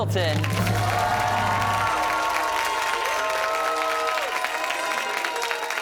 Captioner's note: cheers and applause